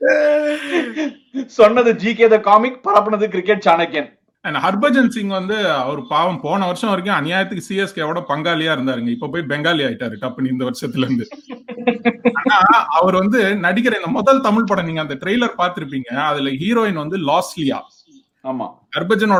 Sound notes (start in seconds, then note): 10.9 laughs